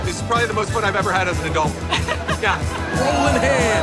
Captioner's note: laughter